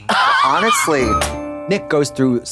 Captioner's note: bright chime